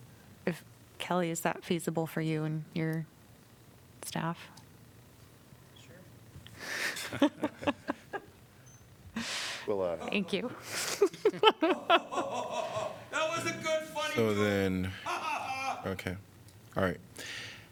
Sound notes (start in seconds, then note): 6.8 laughter; 10.0 laughter; 15.0 laughter